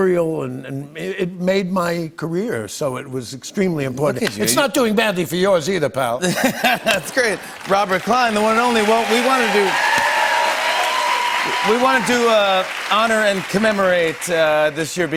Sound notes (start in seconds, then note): 6.3 laughs; 9.6 cheers and applause